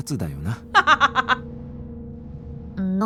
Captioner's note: chuckles